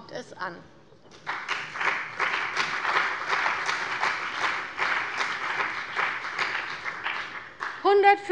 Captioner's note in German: Beifall bei der CDU und dem BÜNDNIS 90/DIE GRÜNEN